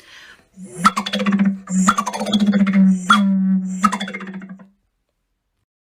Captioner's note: rapid descending percussive sound, with a vaguely bouncy sound to it